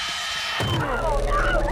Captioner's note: dramatic musical score; masked figure thumps